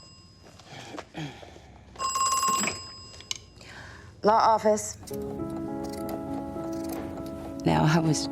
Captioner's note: telephone rings; clears throat